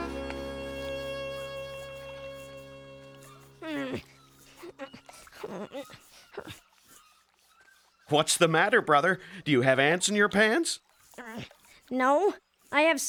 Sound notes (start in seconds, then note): 0.2 straining; 4.4 straining; 10.8 tearing and yelling